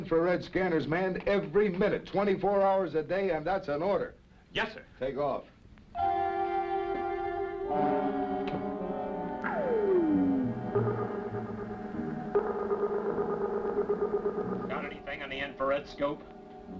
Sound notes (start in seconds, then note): 6.5 ominous instrumental music; 9.4 beeping